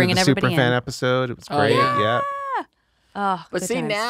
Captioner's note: she cheers; she sighs